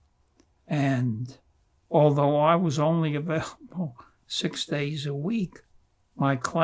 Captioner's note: laughing